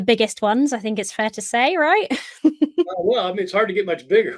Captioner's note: chuckling